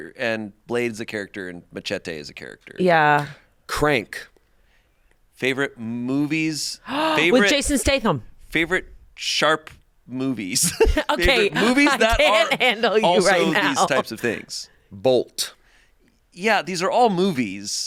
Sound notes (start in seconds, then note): 6.8 gasps